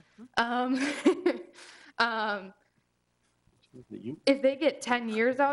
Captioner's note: chuckling